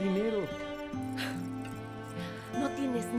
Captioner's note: Caridad resopla